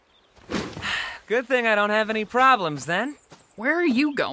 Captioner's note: sighs